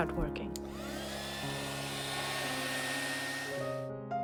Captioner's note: heat gun whirring